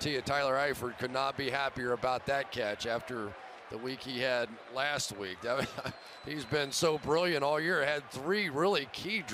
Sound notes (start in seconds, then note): 5.5 chuckles